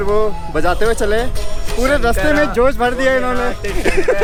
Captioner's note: laughs